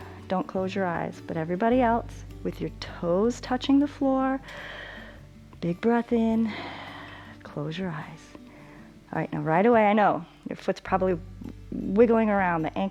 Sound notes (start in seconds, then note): 4.4 inhales; 4.4 exhales